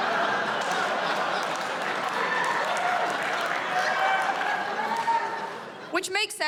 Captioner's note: laughter; cheers and applause